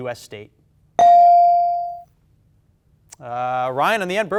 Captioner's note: bell dings